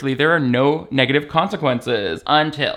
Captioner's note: none